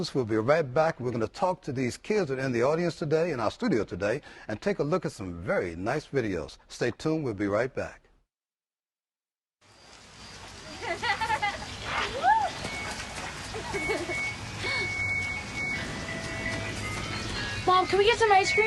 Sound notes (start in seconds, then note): 8.8 laughter